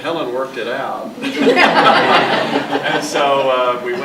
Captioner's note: audience laughing